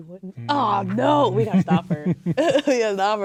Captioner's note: chuckling